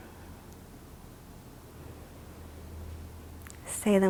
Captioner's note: inhales